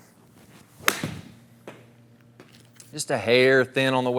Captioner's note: club whacks